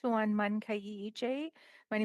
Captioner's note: speaking in alternate language